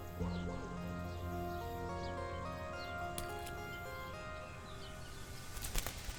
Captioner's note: dramatic, suspenseful music; birds chirping